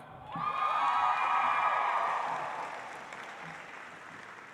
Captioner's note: audience applauds